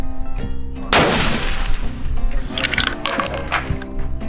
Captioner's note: gun fires